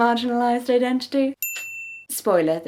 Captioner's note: ding